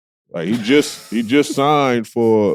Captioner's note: laughing